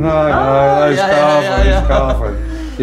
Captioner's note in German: Lachen